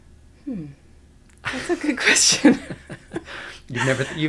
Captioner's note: laughter